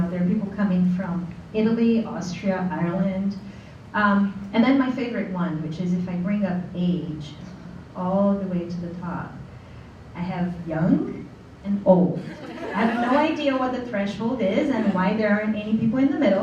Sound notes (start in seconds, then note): 12.2 laughter